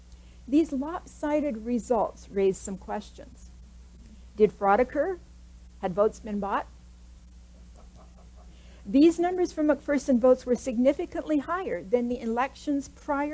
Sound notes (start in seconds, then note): 7.6 light laughter